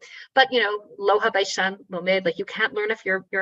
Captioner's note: speaking in foreign language